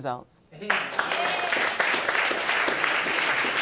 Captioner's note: audience applauding